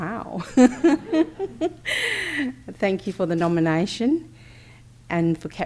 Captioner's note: laughs